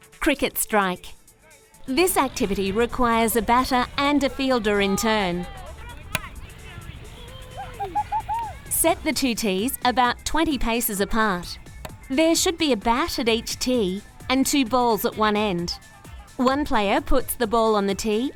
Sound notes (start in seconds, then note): 6.6 kids yelling